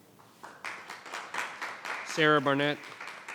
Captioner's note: audience applauds